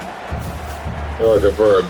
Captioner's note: crowd Noises